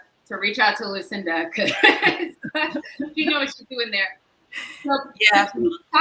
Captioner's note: laughs